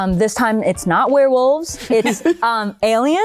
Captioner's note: laughter